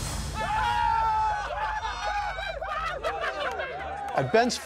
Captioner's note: gunshot; cheering